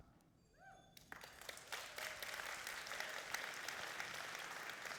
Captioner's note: applauding